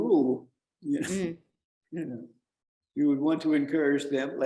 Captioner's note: chuckles